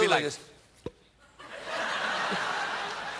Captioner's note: laughter